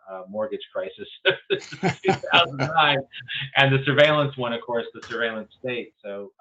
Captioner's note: laughs